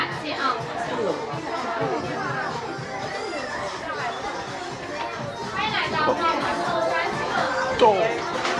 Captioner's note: crowd chattering; speaking in foreign language; upbeat music